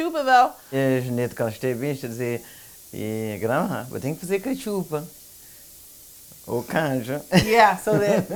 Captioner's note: speaking portuguese